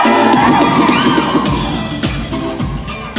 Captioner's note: audience cheering